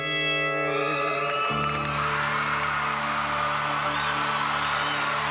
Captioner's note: applause